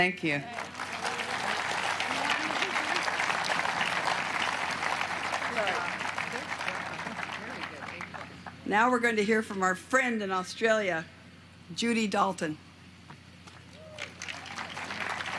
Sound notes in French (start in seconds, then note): 7.3 applause; 10.0 applause